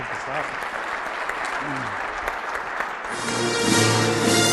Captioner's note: audience applauds